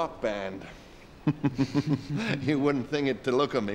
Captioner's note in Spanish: riendo